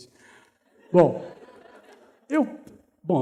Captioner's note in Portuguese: risos